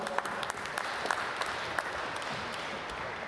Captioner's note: applause